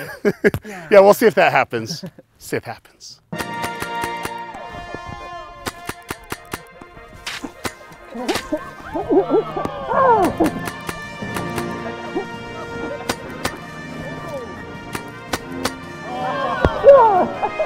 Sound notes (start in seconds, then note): 4.3 orchestral music; 10.6 crowd murmuring